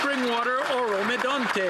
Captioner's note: some Applause